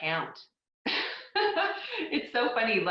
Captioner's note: laughs